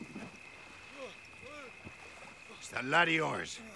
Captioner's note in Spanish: grumbling